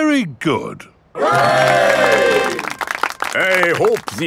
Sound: clapping

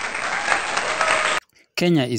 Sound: cheers

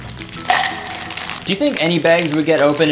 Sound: package crackling; bite chomping

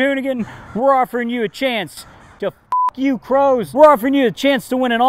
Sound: beeps

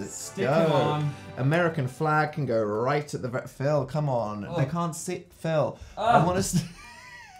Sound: laughs

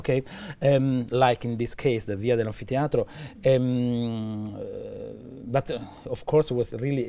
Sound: speaking italian

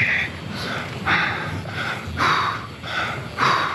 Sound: panting

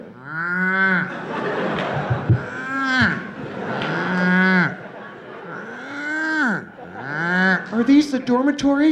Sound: mooing

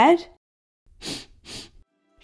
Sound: sniff! Sniff!

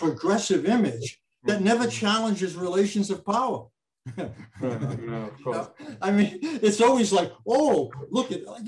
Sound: chuckles

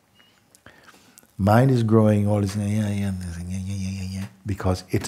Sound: chattering sound

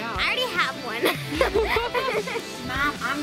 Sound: laughing

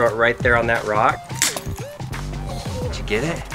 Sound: bells jingling

